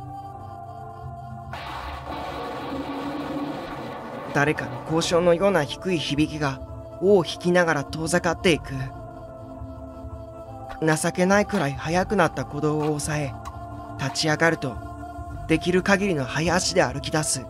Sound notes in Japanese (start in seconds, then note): 0.0 心細いbgm; 1.5 稲光の音：ピガッ！; 1.5 雷の音：ゴオォォ･･･; 4.8 心細いbgm